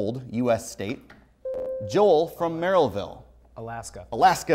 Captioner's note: buzzer